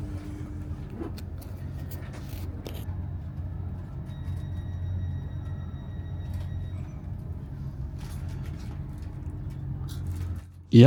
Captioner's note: very loud crunching